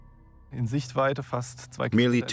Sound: speaking German

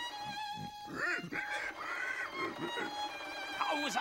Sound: pig grunting

